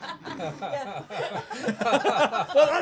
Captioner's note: laughter